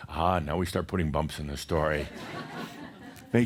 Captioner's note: more chuckles